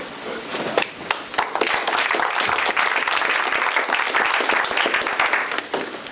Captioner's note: applause